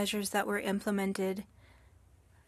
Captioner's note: speaking french